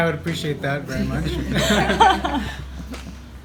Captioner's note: laughter